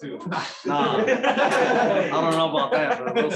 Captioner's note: laughter